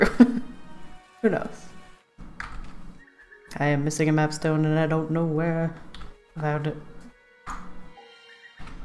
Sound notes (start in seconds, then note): 0.3 laughs; 5.6 sing songy